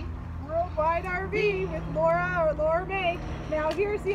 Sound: airplane background noise begins

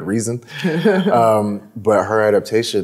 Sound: laughs

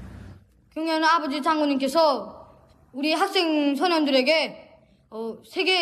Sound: speaks in foreign language

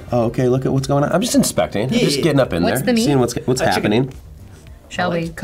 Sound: none

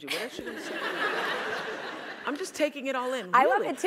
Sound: laugh

